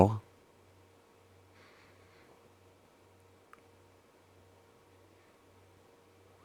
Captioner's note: silence